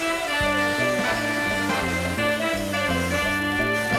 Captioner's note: blenders whizzing; upbeat classical music